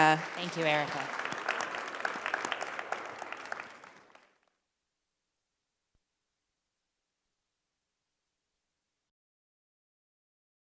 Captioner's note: applause